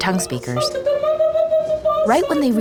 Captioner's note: high-pitched vocalizing